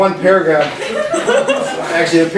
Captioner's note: class laughing